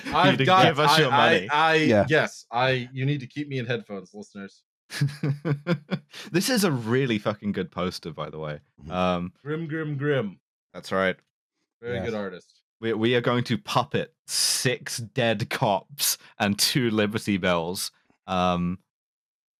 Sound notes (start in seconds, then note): 4.9 chuckles